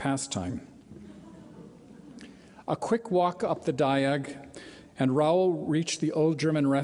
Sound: light laughter

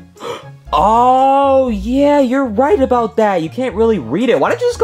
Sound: gasps

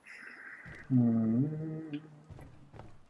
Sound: hums

